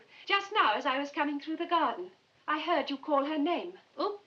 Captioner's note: none